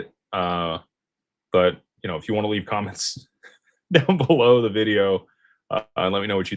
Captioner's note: laughter